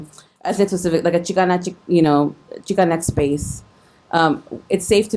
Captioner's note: speaking foreign language